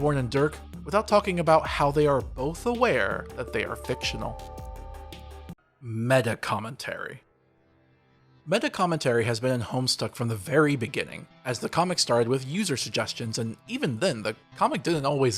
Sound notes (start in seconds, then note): none